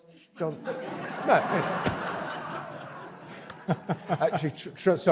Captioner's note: audience laughs